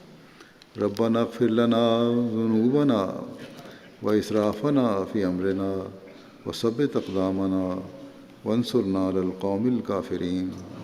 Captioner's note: Arabic